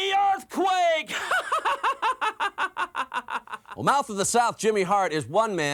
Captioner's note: laugh